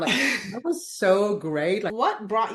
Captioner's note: laughs